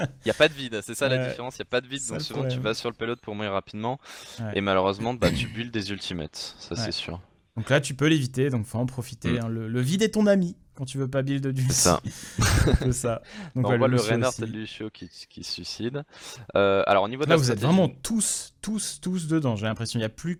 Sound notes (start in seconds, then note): 12.3 laughs